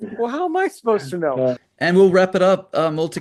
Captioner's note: says indignantly